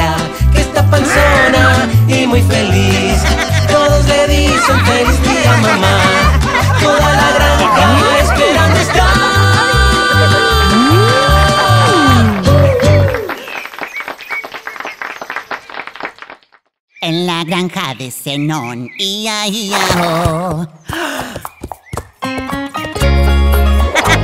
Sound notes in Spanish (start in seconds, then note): 4.4 Risas; 11.4 Aplausos; 19.9 Sonido de relincho; 22.2 Música alegre